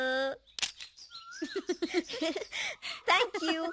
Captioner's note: chuckling